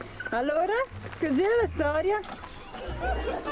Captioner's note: laughter